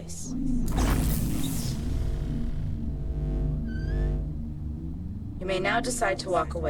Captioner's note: air whooshing; electricity fizzing